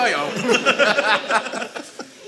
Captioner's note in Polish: śmiech